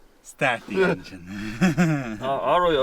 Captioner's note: Felim laughs